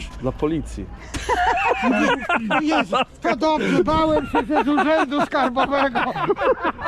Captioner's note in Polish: śmiech